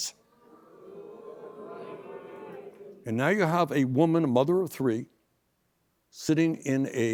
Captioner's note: booing